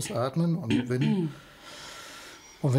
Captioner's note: she clears her throat